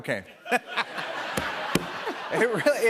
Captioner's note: laughter